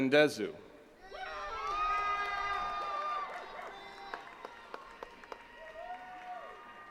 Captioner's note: attendees cheering and clapping